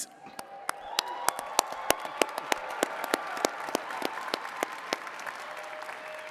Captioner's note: attendees cheering and clapping